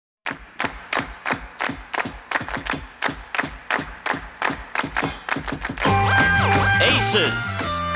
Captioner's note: rhythmic clapping